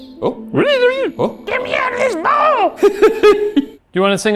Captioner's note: laughs